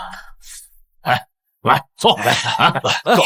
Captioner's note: sighs